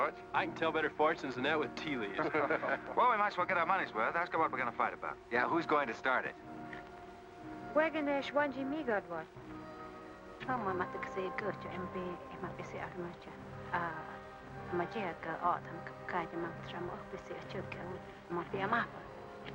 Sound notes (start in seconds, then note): 7.7 Kit speaking in Native American language; 10.4 woman speaking in Native American language